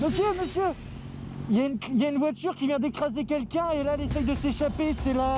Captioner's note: speaks in foreign language